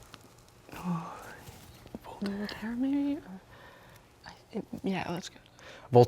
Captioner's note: whispering